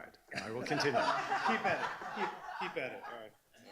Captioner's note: laughing